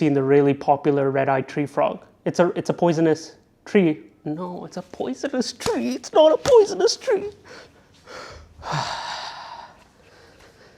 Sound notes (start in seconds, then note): 8.6 sigh of despair